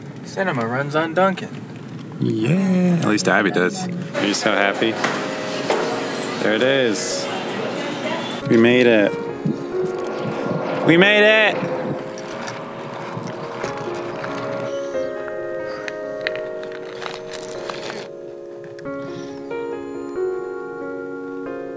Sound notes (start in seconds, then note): 10.8 yelling; 11.6 footsteps crunching